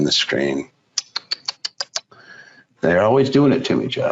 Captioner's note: tsks tongue